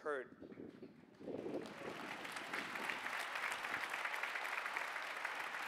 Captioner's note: applause